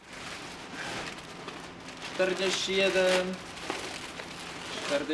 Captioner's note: man speaking in foreign language